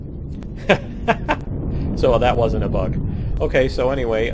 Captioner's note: laughs